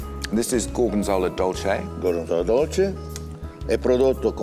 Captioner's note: speaks italian